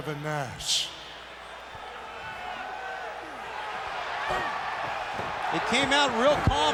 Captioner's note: crowd cheering